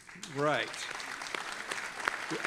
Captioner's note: audience applauding